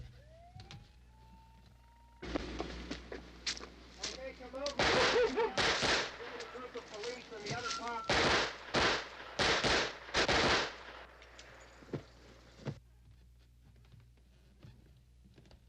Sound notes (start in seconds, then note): 4.6 guns firing; 6.0 murmuring; 8.4 guns firing